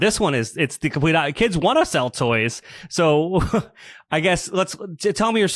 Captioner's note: laughs